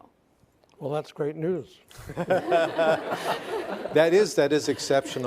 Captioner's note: all laughing